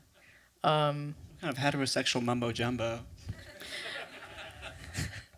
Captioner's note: laughter